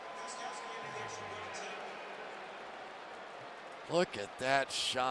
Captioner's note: pa announcement